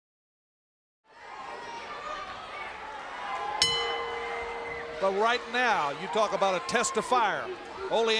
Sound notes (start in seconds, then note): 1.1 fans shouting; 3.6 bell chimes